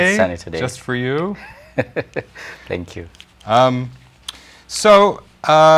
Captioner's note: laughs